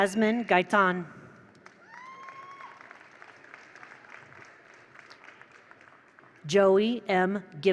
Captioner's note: attendees applaud; attendees cheer